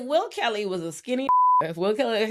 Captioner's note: beep